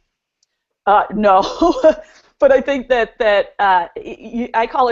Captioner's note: chuckles